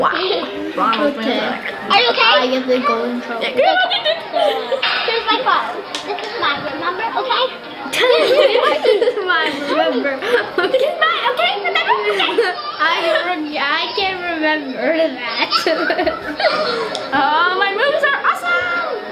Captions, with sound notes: Wow. Ronald's moves are (yelling) (laughing) This is mine, remember. My okay, remember, okay? I heard yeah I can remember in the back. (laughing) Ah, my moves are awesome!